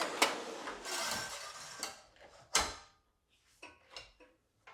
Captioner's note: saw clicking